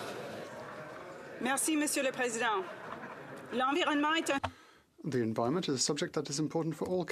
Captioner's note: applause